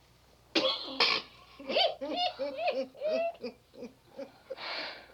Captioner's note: laughing